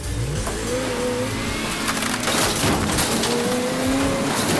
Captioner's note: truck engine revs